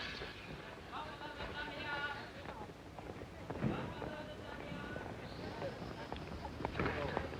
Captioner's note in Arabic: فرامل طحن و صرير; ثرثرة خافتة